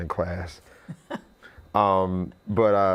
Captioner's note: laughing